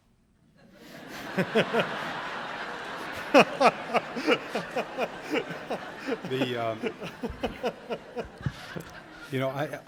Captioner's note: laughter